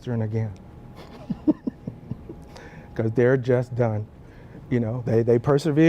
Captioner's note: laugh